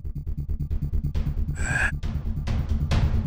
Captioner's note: sighs